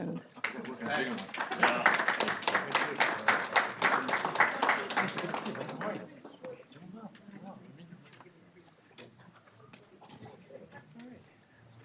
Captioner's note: applause